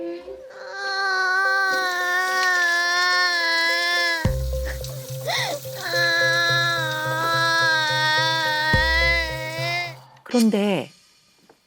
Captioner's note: she starts crying again